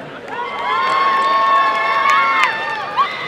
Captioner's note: applause and cheering